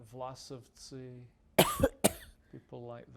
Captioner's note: coughing